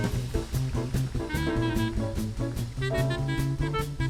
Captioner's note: audience applauding